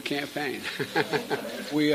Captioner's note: laughter